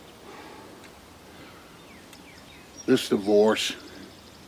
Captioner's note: Jake sighing